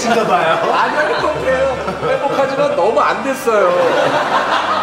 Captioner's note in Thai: เสียงหัวเราะ